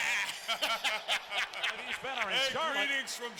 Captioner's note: nWo members chuckling